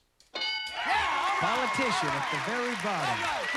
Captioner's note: cheers and applause